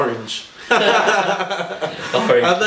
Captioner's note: laughing